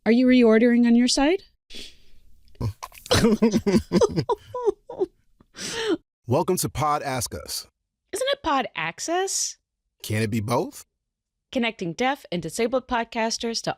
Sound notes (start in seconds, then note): 2.6 chuckles; 2.6 laugh-cries